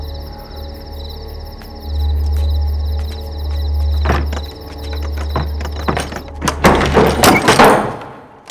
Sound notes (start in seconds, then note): 2.0 footsteps; 5.9 door opening